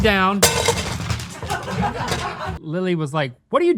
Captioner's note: laughter